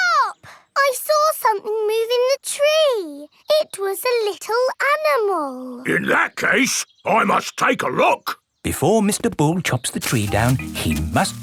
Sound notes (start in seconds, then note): none